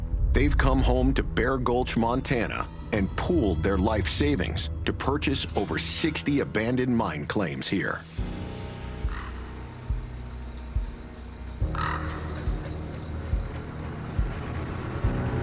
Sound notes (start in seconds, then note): 9.2 bird caws; 9.2 tense music